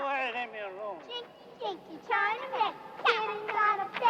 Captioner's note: children chanting